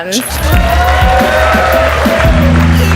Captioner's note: audience cheers and applauds